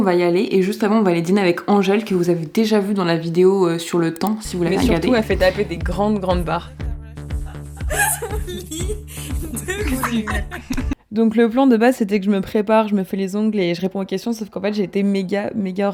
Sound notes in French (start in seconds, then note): 10.8 rires